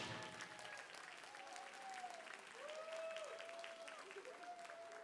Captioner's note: audience cheering and applauding